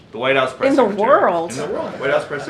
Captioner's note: laughter